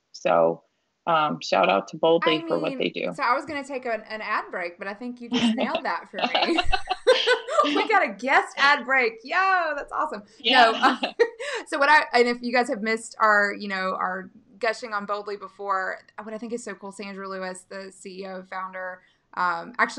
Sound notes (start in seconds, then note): 6.0 laughing; 10.4 laughing